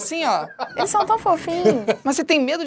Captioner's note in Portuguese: risadas